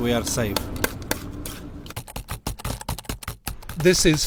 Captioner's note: keyboard clacking